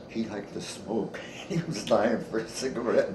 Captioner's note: chuckles